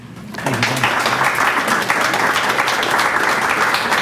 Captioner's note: audience clapping